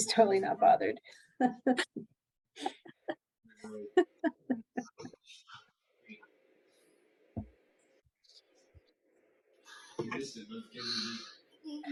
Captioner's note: laughter